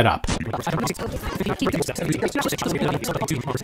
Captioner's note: audio warbling